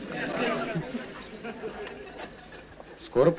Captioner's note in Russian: смех